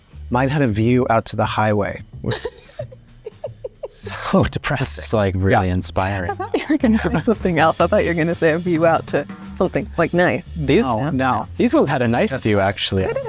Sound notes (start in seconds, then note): 2.2 laughs; 6.0 chuckles